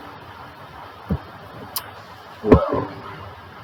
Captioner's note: irritated tongue click